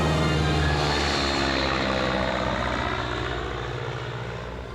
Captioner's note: airplane flying overhead